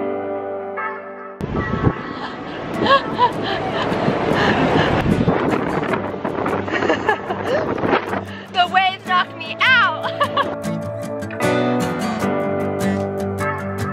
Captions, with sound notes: (gasping) (laughter) The waves knock me out. (calm music)